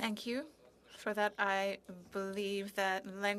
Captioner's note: speaking in French